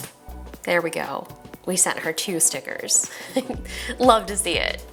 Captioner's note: chuckles